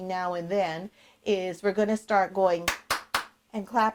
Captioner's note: claps